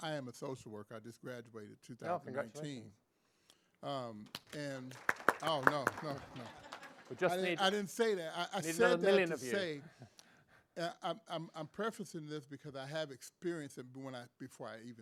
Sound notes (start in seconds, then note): 4.2 applause; 5.6 laughs